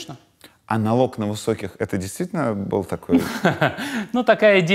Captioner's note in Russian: Гуриев смеется